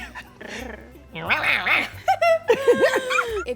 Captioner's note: Tiffany laughs; Esther growls; Tiffany meows; both laugh